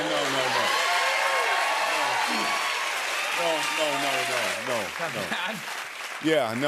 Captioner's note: cheers and applause